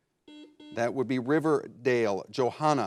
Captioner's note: buzzer blares